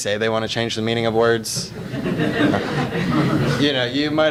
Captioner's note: audience laughs